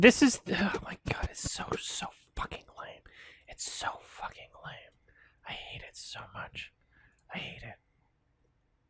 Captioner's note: slightly stammers; under his breath